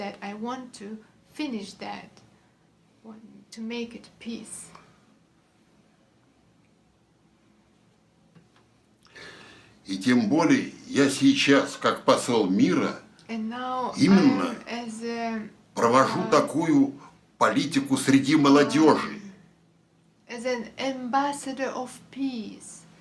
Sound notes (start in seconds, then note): 6.2 foreign language